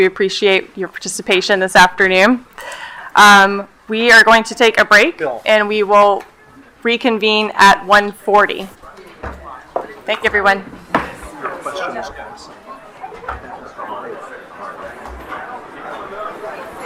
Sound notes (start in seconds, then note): 12.0 people chattering